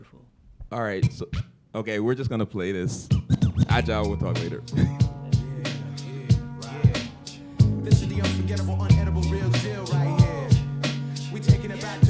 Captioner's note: chuckle